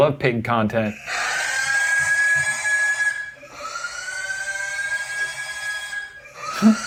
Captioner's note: pig squealing loudly repeatedly